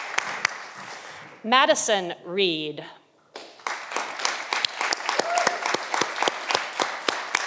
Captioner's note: audience applauding